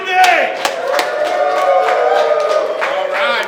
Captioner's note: crowd cheering